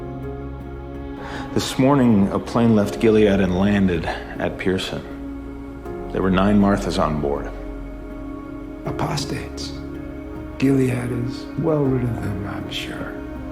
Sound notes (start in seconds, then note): 1.7 voiceover